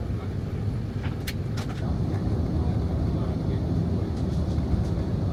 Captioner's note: engine humming continues